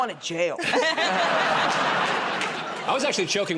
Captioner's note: laughter